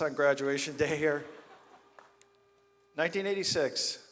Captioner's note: audience laughs